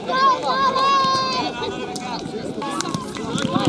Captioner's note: crowd noise